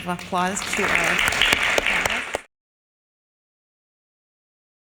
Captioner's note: audience applauding